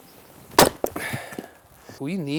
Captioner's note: wood splitting